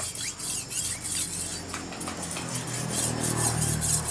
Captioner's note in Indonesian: suara asahan parang